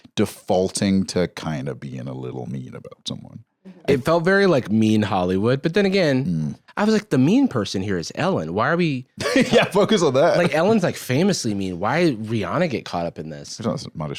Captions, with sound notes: defaulting to kinda being a little mean about someone. It felt very mean Hollywood, but then again... I was like, "The mean person here is Ellen. Why are we...?" - (laughs) Yeah, focus on that. - Ellen's famously mean. Why'd Rihanna get caught up in this?